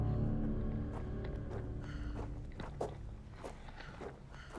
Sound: gravel crunching

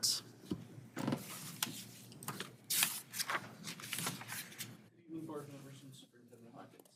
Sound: papers shuffling; footsteps tapping

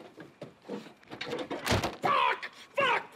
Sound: slamming

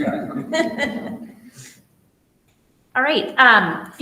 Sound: all laughing

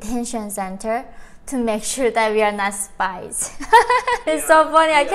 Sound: giggles

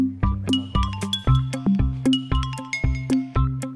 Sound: phone rings

